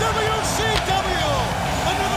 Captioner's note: crowd cheering